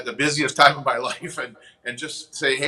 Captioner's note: chuckles